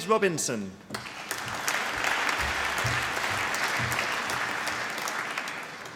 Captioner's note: applause